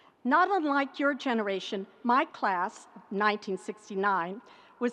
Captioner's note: none